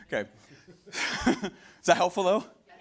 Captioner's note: laughing